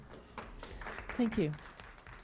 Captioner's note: clapping